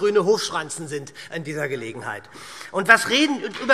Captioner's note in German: Beifall SPD